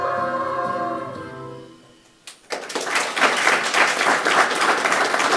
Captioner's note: audience applauding